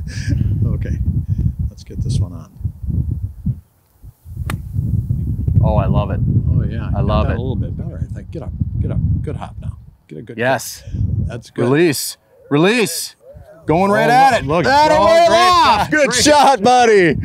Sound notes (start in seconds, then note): 0.0 chuckle; 4.4 golf club whack; 13.8 yelling